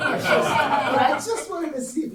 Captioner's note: audience laughing